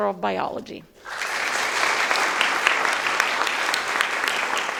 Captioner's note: audience applauding